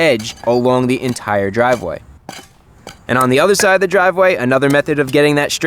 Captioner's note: dirt digging noises